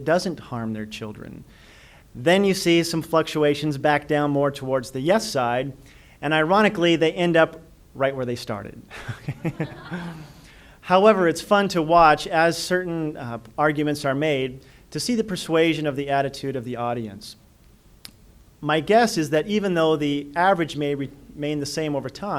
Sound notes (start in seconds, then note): 9.0 audience laughter